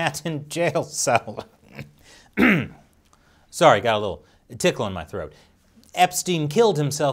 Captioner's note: cough, cough